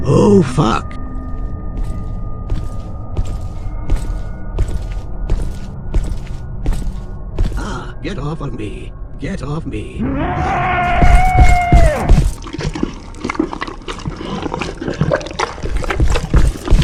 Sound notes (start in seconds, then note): 10.0 creature roars